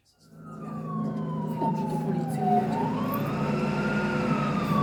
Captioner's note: police sirens